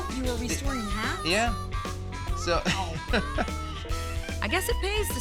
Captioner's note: chuckles